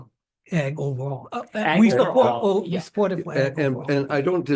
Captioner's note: attendees chattering